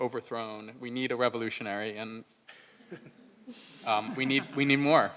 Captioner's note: laugh